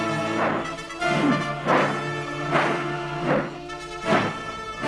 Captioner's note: sword whooshing